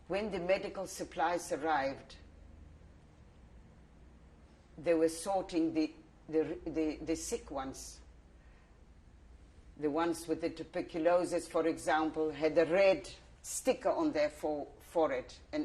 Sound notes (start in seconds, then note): 1.9 pauses for 3 seconds